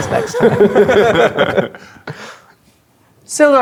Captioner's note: players laughing